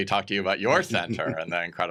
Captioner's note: chuckles